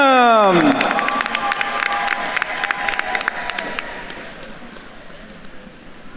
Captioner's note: attendees cheering and applauding